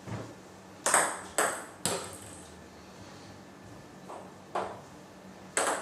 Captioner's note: balls ping pong hitting continues